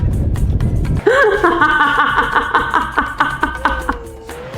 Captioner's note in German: lacht